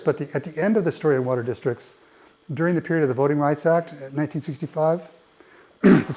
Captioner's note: cough